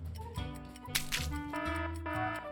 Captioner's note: paint splats; alarm buzzes